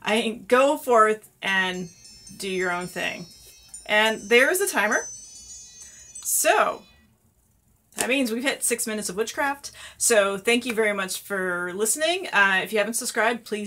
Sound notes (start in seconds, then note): 1.5 chiming sounds